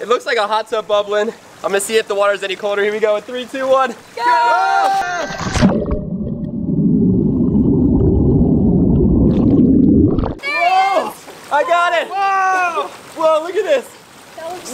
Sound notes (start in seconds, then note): 5.0 splashing and gurgling